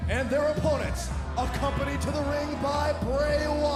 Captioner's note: crowd chatter